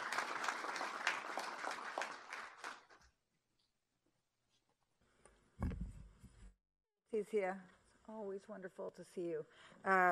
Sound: applause

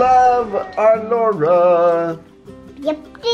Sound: singsong

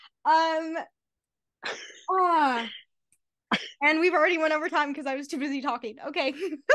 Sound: laughter

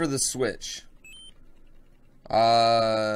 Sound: bing

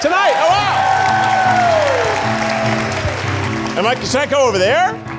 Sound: audience cheering

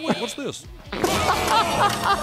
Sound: gagging; laughing; loud eruption

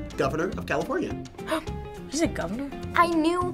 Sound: gasps

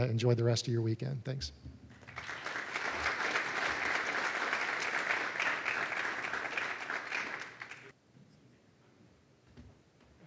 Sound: applause

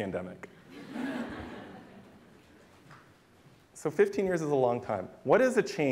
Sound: laughter

